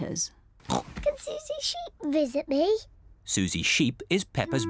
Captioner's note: oinks